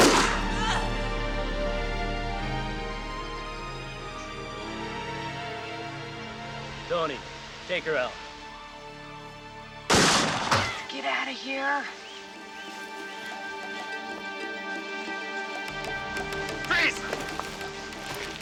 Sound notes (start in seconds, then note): 0.3 woman groaning; 9.9 gun firing